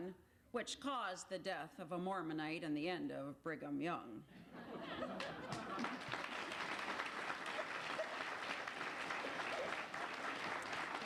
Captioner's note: applause